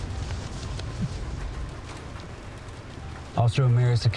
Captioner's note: rain splattering